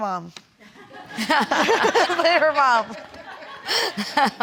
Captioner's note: laughing